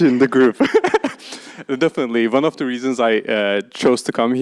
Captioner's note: laughs